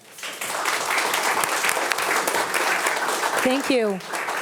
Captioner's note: attendees applauding